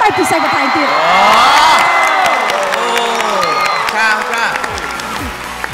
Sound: cheer and applause

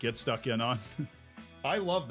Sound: laughs

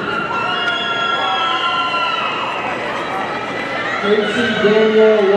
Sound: audience cheering

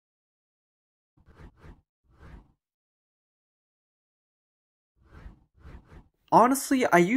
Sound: transition swooshes

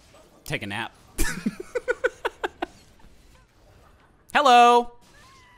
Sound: laughing

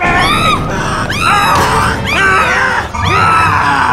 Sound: screaming

